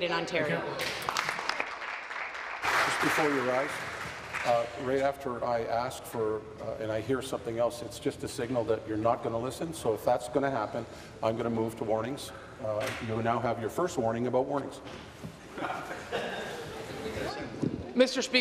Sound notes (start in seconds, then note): 4.7 applause